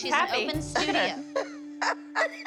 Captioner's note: laughing